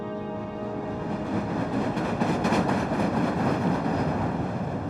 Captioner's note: train clanking